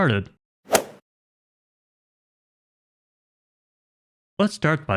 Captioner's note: golf ball hit sound effect